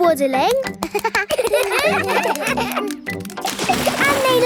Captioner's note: children laugh